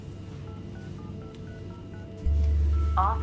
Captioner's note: phone beeping